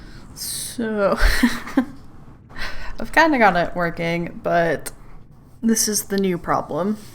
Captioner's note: laughs